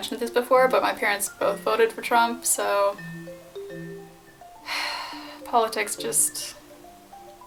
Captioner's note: sigh